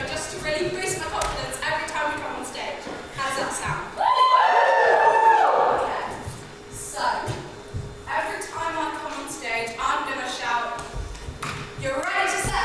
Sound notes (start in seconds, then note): 4.0 audience woos